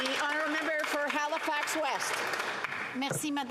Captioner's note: some Applause